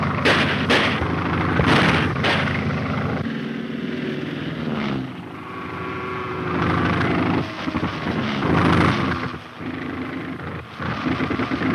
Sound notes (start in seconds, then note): 0.2 gun firing; 1.7 guns firing; 5.1 plane buzzing; 8.0 plane engine sputtering